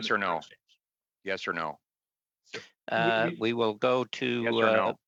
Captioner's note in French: voix de l'interprète